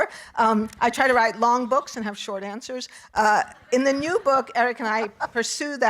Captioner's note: audience laughing